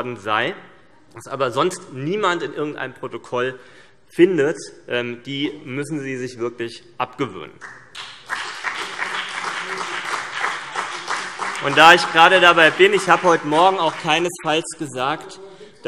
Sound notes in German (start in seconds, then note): 7.6 Beifall CDU und BÜNDNIS 90/DIE GRÜNEN - Zurufe